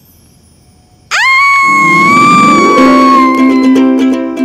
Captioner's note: Devika screaming